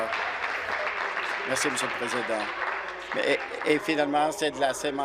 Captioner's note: applause